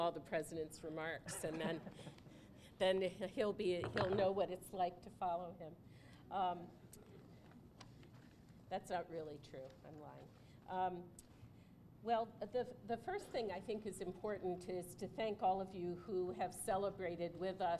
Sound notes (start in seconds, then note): 1.2 laughter